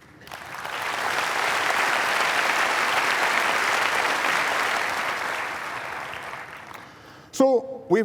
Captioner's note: applause